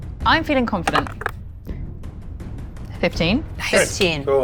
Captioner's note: die rattles